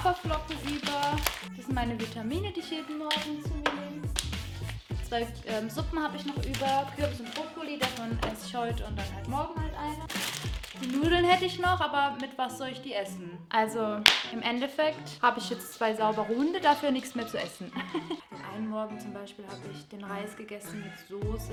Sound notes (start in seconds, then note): 17.4 laughs